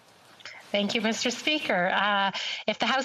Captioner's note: speaking French